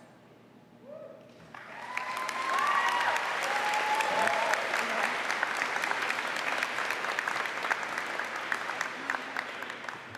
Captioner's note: applause